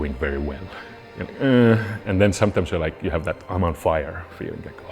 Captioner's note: pained noise